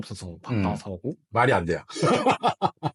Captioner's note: laughs